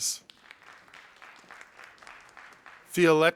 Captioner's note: audience applauding